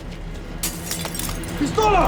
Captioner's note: bottle drops and shatters